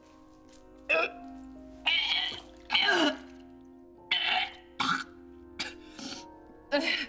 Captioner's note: gagging, vomiting